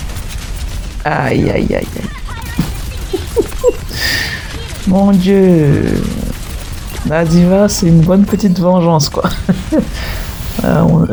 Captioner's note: laughs